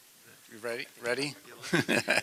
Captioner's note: laughter